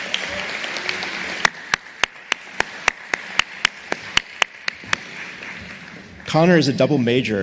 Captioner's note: applause